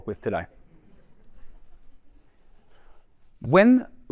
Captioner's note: laughter and chatter